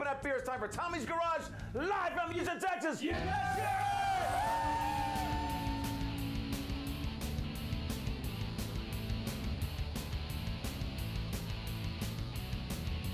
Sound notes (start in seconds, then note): 3.0 upbeat rock music; 3.1 audience cheering; 11.4 upbeat rock music